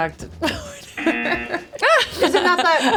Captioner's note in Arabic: يضحك; يطلق الجرس